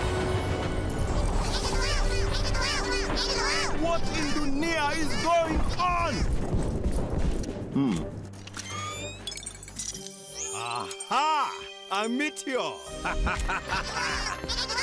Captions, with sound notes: (panicked chatter) - What in Dunia is going on? Hm. (clicking and whirring) (beeping) Ah-ha! A meteor! (evil laughter) (chattering)